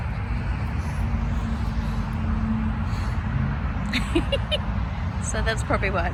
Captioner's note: giggles; puffs and pants dramatically